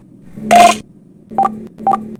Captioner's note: voting sounds